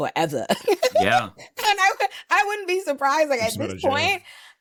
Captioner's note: laughs